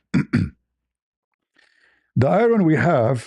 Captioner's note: berdehem